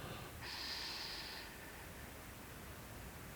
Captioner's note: breathing